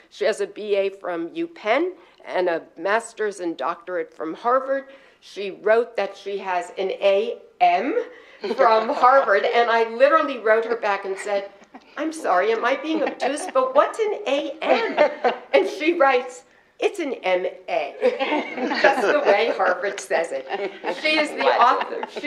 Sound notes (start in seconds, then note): 18.0 laughter